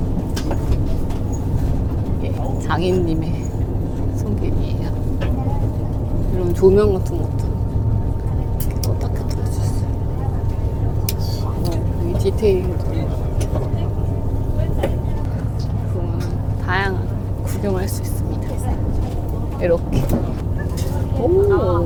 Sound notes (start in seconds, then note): 13.7 laughs